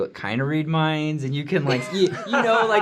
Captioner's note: laughter